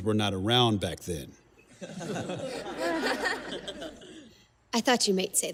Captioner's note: risadas da plateia